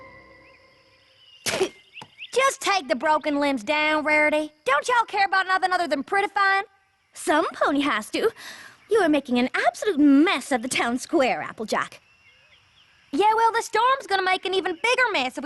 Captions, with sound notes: [ Spits ] Just take the broken limbs down, Rarity. Don't y'all care about nothing other than prettifyin'? Somepony has to. You are making an absolute mess Of the town square, Applejack. Yeah, well, the storm's gonna make an even bigger mess